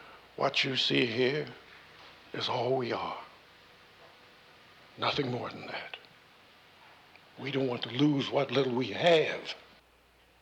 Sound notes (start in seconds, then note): none